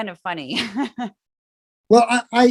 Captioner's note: laugh